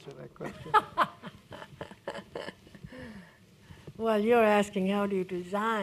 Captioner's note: chuckles